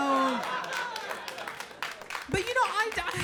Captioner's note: audience laughing; audience applauding